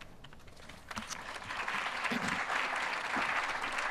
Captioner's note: applause